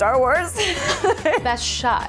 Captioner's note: laughter